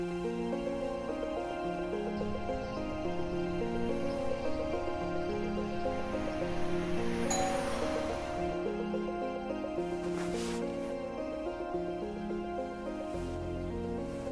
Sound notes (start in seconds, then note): 0.2 upbeat, dramatic music; 7.3 doorbell rings; 9.0 upbeat, dramatic music